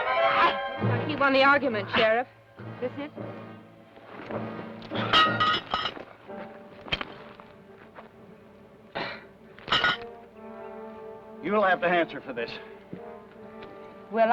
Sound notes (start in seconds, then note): 4.8 pan clangs